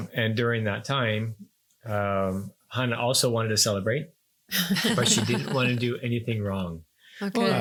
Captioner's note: laughing